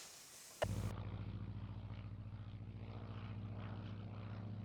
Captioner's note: whirring